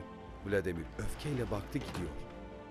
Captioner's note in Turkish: Kapı kapanma sesi